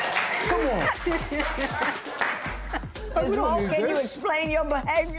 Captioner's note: laughter, applause